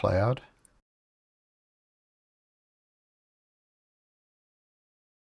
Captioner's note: silence